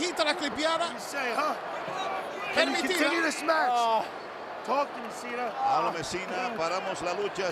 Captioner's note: applause